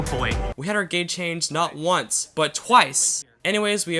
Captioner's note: voiceover